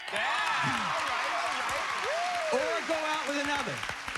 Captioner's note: cheers and applause